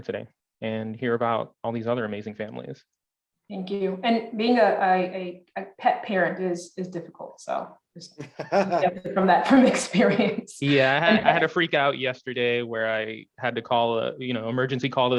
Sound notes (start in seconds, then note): 8.2 laughing